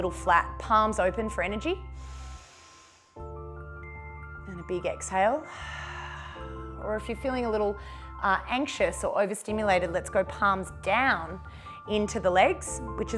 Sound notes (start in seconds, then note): 2.0 inhales; 5.5 exhales